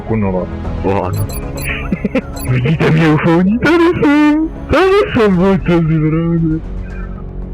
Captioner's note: laughs